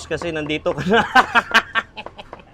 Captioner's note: laughs